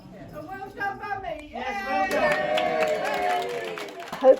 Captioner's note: applause